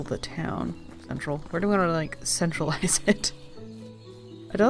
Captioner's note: laughing